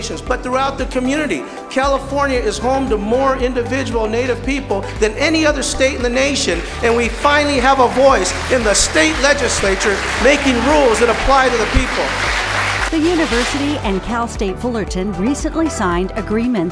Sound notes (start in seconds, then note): 11.8 applause